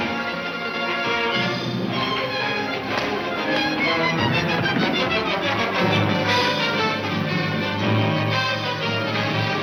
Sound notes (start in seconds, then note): 5.7 engines revving